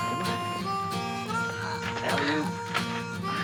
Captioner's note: groaning